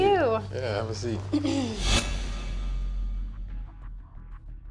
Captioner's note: clears throat